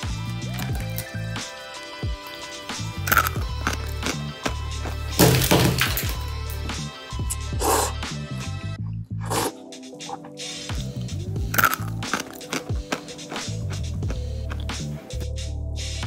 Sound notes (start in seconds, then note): 2.1 sound of eating crunchy uncooked packet noodles; 9.2 sound of slurping noodles; 11.4 sound of eating in the background